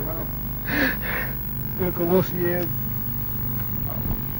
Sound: unintelligible sobs regarding brother's imprisonment

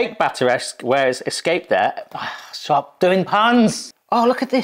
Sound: sighs

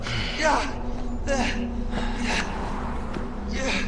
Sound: whimpering

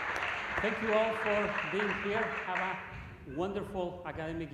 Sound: cheers and applause

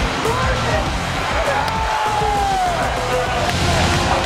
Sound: cheering

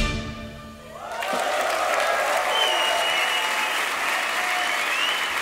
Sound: crowd cheering and clapping

